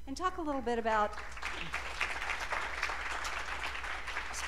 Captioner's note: applause